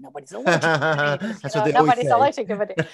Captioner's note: laughing